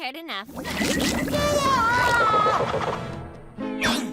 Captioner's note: SpongeBob screams